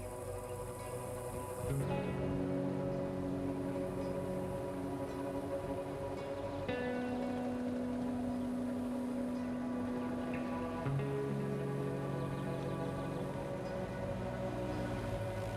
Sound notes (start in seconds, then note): 1.3 buffalo herd rumbling